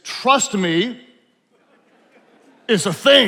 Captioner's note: attendees laughing